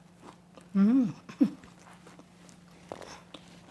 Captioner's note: crunching